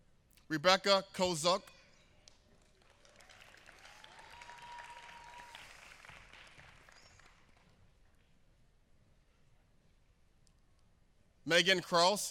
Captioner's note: applause